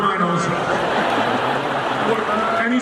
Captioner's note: laughing